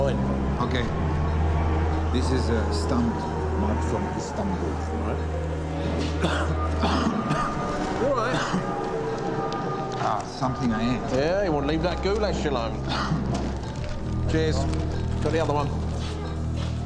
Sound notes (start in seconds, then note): 5.7 coughing